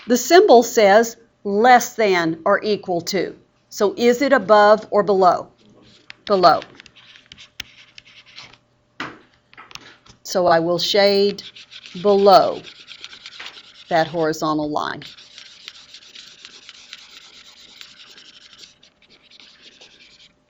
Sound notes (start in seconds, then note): 11.1 mouse scribbles